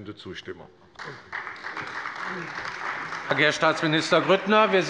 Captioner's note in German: Beifall bei der CDU und dem BÜNDNIS 90/DIE GRÜNEN